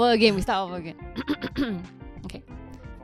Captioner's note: ahem